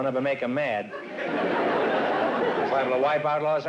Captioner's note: laughter